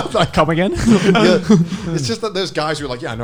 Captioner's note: laughing